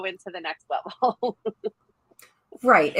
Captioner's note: chuckles